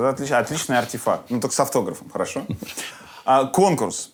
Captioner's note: laughs